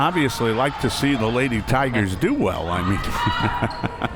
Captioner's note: laughs